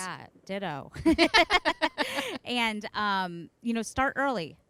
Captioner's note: laughing